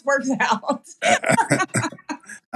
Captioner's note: laugh